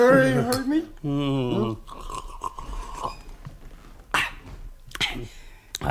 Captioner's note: sips from the glass